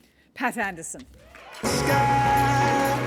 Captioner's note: applause